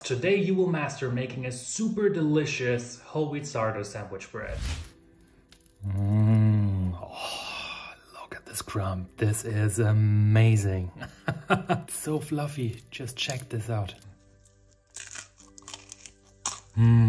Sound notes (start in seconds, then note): 4.4 bread crackles; 11.1 laughs; 14.2 bread crunches